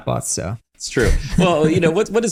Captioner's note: laughs